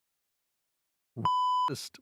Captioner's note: beep